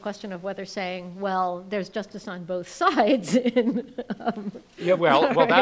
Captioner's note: laughs